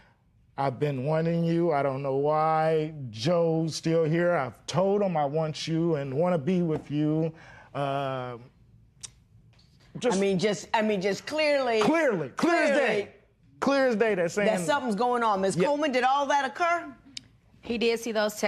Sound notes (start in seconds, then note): none